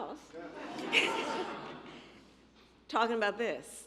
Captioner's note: laughter